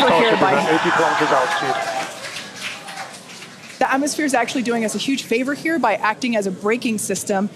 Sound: audience applauding

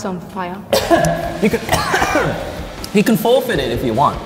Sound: coughing

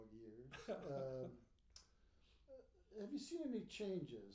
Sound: laughing

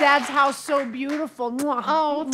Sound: kissing

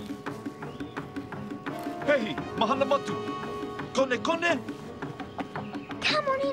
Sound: non-english speech

